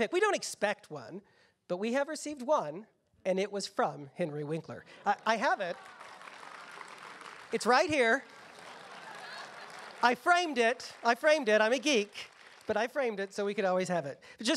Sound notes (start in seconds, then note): 5.8 applause